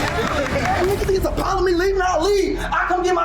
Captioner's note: shouting